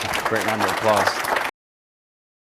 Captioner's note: audience applauding